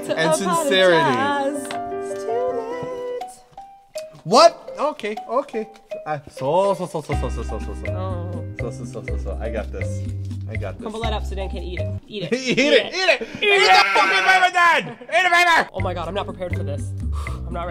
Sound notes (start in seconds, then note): 12.1 laughs; 17.1 breathes out